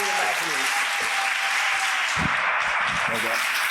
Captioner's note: applause